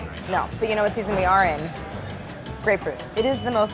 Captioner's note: bell dinging